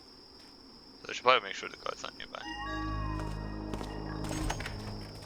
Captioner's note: quiet, high-pitched coo